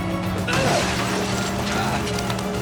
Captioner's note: grunts with effort